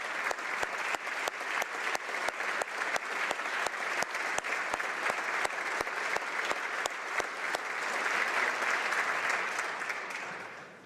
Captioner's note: applause